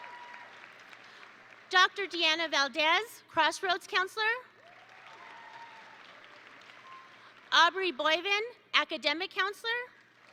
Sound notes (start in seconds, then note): 4.6 attendees cheer; 4.6 attendees applaud